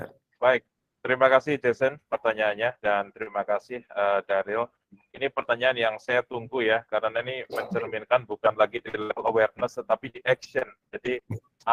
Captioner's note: non-english speech